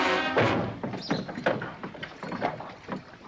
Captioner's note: rattling sound